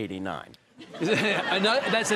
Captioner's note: audience laughing